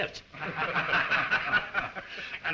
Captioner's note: all laugh